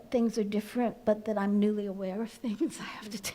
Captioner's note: laughs